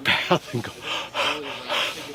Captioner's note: panting